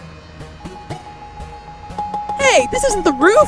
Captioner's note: hasty, repeated elevator button pressing